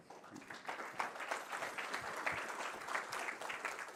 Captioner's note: applause